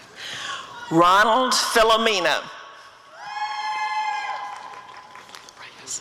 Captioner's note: applause and cheering